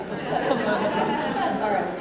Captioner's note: laughter